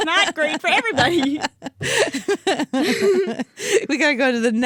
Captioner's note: both laughing